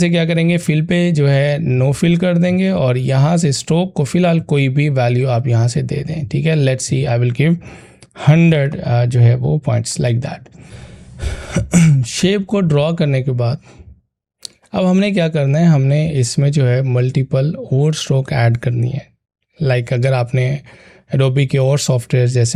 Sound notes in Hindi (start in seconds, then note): 11.3 गला साफ़ करने की आवाज़